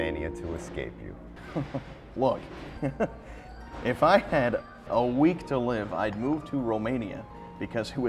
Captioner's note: laughing